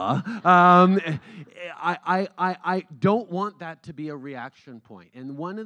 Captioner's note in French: Rires